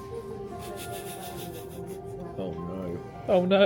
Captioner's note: laughs